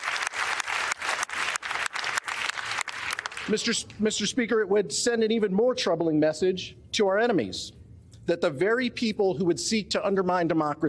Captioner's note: applause